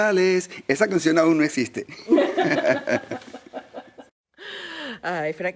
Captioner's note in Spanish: se ríe